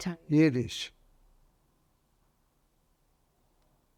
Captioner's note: pauses 6 seconds